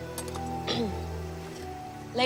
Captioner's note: clears throat